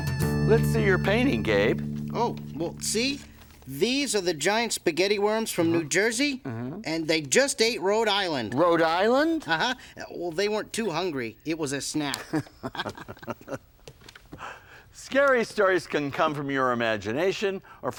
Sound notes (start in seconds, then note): 12.1 both laughing